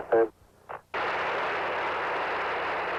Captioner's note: engine blasting